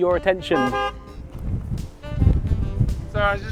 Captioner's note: hooting